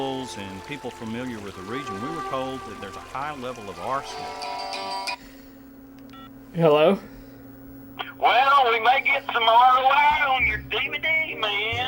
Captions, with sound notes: and people familiar with the region, we were told that there's a high level of arsenic. [telephone ringing] Hello. Well, we may get something out of your DVD, man.